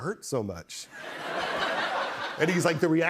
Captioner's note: laughter